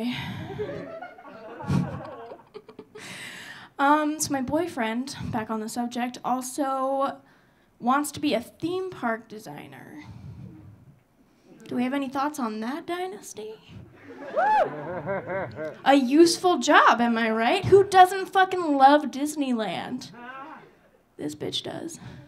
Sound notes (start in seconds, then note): 0.4 audience laughing; 13.9 audience laughing; 14.1 audience cheering